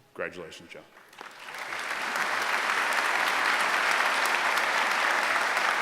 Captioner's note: applause